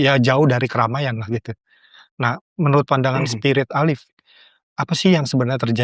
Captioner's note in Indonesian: berdehem